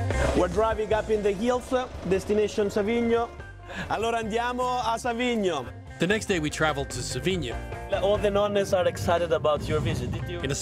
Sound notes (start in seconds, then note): 3.8 speaking Italian